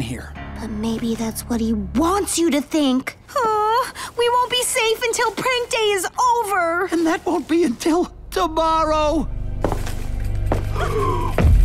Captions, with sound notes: But maybe that's what he wants you to think. Oh, we won't be safe until Prank Day is over! And that won't be until tomorrow! [indistinct tap] [gasps]